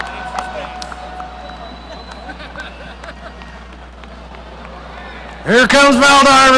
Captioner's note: people laughing